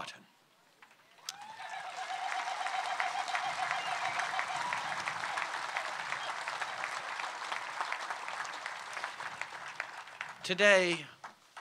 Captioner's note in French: Acclamations et applaudissements